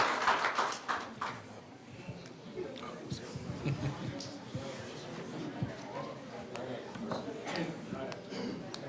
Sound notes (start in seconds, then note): 2.3 people chattering